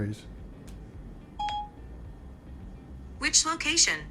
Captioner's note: phone beeps